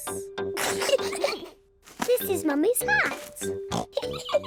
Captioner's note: both snickering; oinks; both laughing